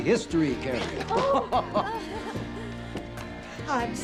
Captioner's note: laughing